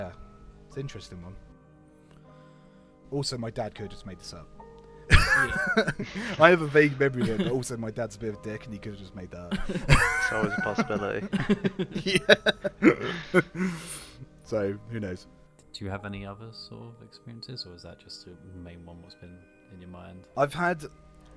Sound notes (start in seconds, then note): 5.1 laughs; 9.5 laughter